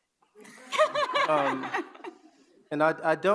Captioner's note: audience laugh